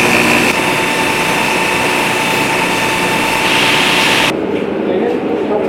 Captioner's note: grinder noise